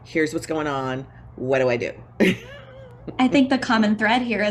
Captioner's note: laughs